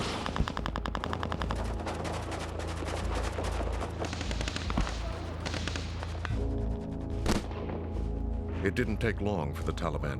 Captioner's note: gunfire